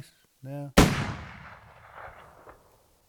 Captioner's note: explosion